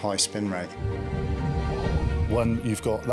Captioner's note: energetic music; water whooshing